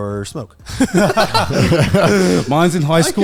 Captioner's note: all laughing